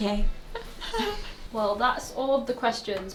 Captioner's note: both giggling